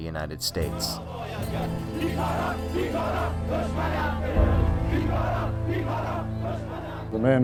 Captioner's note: crowd chanting